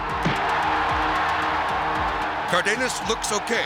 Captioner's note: crowd cheering